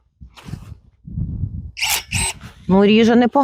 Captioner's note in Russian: звук секатора